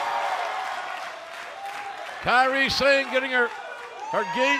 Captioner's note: cheers and applause